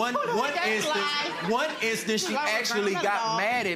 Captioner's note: audience laughing